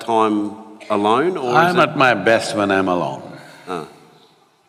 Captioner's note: laughs